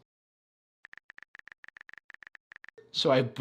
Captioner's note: typing sound